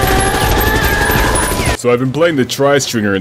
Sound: gunshots

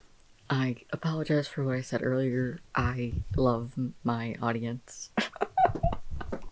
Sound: laughter

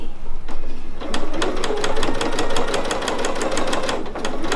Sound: machine humming

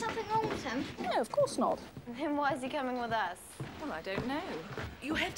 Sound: none

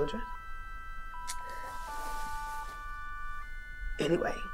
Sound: keyboard tones

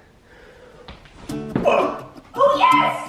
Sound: grunts

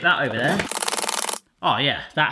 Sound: sped up chopping

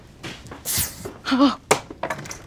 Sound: sprays

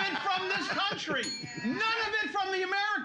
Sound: loudly laughing; bell softly chimes

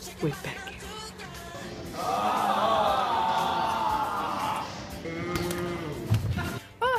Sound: collective groaning

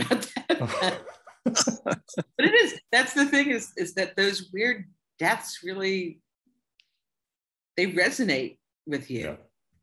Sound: laughter

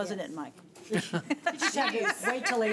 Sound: laughing

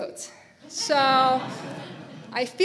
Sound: audience laughing

